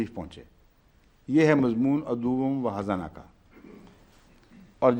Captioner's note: Arabic